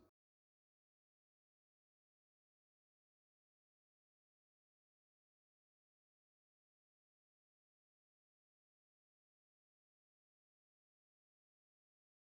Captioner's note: silence